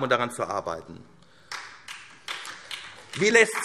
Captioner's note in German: Beifall SPD